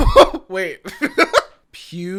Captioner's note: laughs